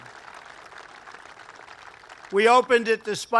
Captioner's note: applause